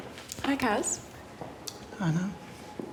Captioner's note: none